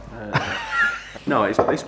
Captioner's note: laughs